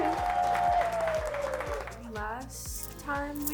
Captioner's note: contestants cheering